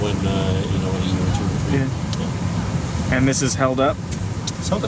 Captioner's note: none